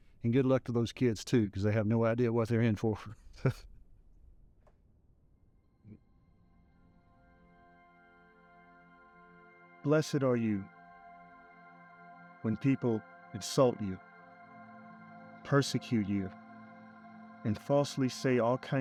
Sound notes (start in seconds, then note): 3.4 Harrison laughs; 6.8 soft music